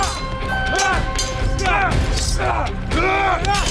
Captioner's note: dramatic music; all moaning